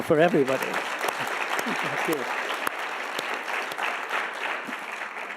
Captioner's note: audience applauding